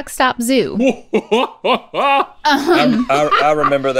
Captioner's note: Link laughs